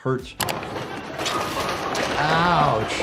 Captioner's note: pins clatter